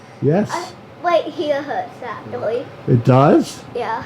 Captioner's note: toddler babbling